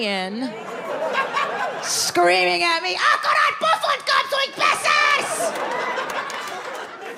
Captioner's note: audience laughs; screaming in foreign language